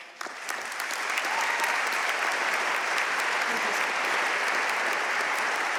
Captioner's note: audience cheering and applauding